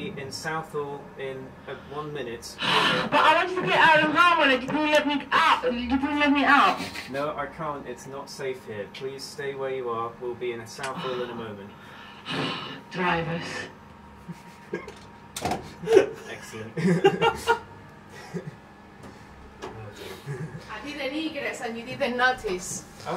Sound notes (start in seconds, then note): 12.9 sigh; 16.7 laughter